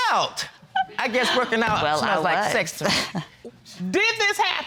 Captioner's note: chuckles